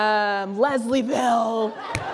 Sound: laughter

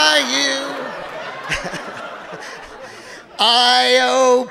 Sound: audience laughing

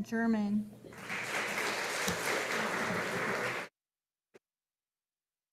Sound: audience applauding

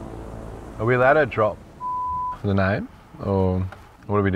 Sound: beep

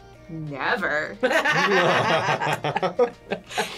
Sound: both laugh

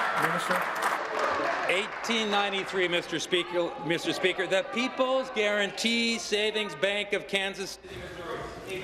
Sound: applause

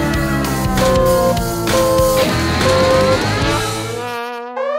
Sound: tires screeching; beeping

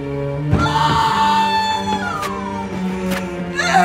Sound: woman screaming

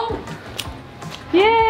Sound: lock clicking

